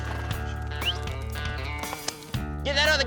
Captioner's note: whistles